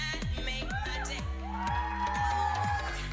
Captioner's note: audience cheering